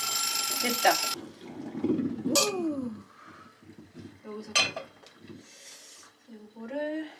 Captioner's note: Following~~ ringtone